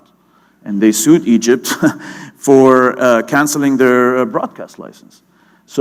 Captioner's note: chuckle